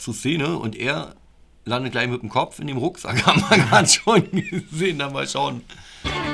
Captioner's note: laughs